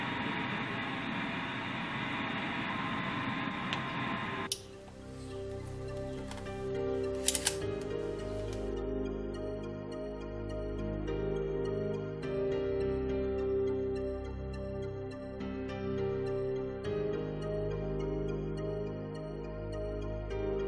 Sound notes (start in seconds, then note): 0.0 radio turned on; 0.2 radio static; 4.9 radio turned off